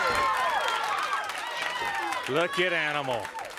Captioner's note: crowd cheering